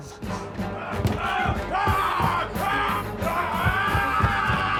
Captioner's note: zombie walter yelling